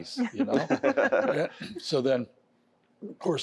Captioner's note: laughter